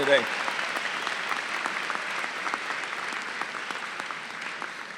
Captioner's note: applause